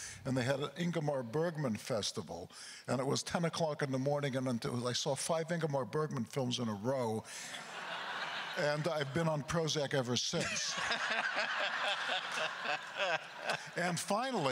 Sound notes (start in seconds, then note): 7.5 crowd laughter; 10.4 laughing; 14.3 continues laughing